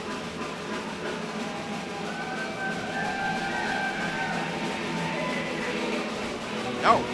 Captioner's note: crowd cheering; drum rolling